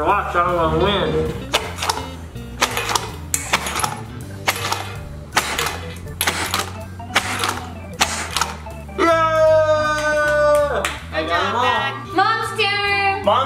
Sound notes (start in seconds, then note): 1.5 blowing; 2.5 cards clinking; 9.8 hands clapping